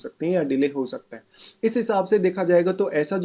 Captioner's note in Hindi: नाक से की जाने वाली आवाज़